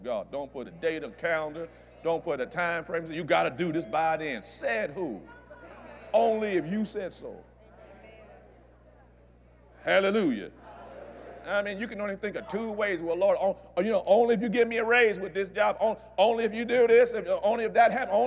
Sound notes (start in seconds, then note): 7.2 audience Agrees